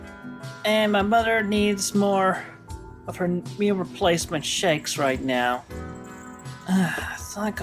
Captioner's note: sigh